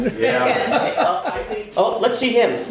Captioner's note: everyone laughs